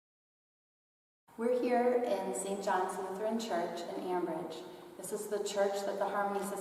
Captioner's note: voice echoes in church interior